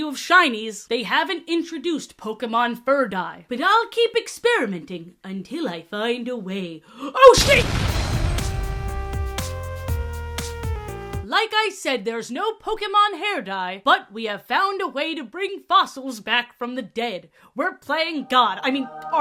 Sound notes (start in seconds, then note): 7.4 explosion sfx